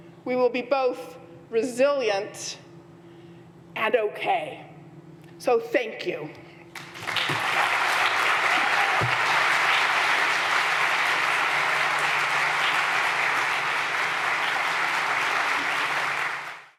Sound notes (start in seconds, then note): 6.7 audience applauding